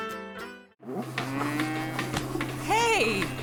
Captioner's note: cows mooing